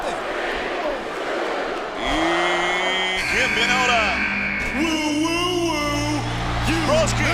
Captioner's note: applause